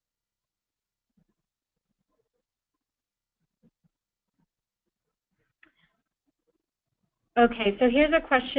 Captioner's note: pause